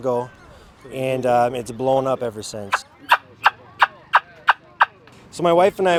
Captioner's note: turkey call blatting